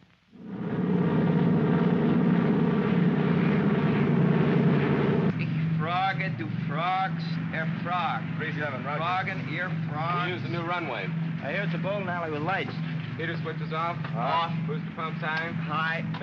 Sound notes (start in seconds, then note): 0.3 aircraft rumbles; 5.2 Mac practices German